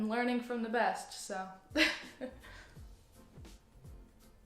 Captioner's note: laughs; low upbeat music